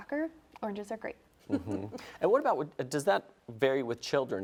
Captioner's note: chuckles